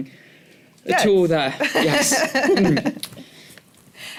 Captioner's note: laughter